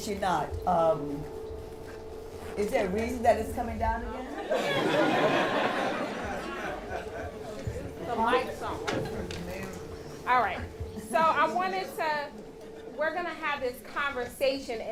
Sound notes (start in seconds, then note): 4.4 laughter